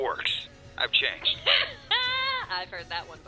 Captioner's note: laughing